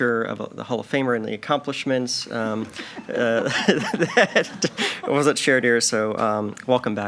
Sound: laughs

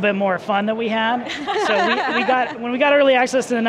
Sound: laughing happily

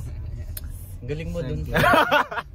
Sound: laughter

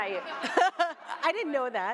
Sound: laughter

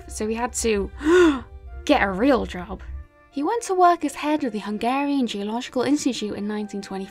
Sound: gasp

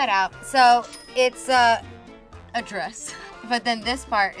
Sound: cash register rings

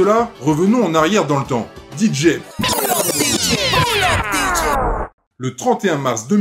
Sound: vinyl sound that rewind

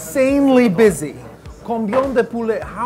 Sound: starts to speak in French

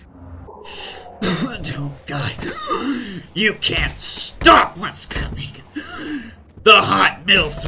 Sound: coughing DOOMguy

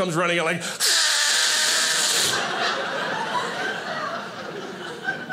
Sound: loudly mimics whizzing; audience laughing

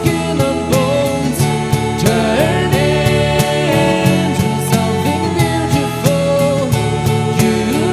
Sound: ohh

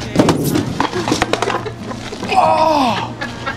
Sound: laughing

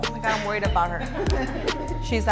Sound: all laugh

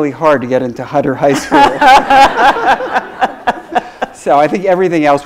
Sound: laughs

